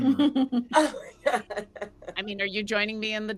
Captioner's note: laughing